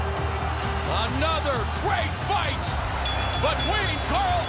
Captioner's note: bell dings